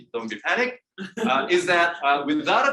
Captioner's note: audience laughing